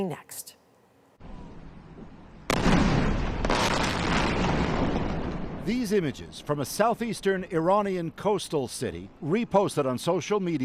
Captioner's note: bombing